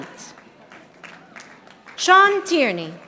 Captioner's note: audience applauding